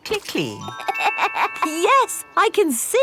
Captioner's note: laughs